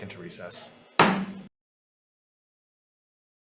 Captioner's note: gavel taps